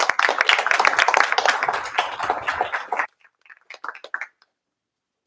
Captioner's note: applause